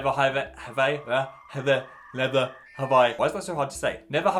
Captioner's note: computer dial up tone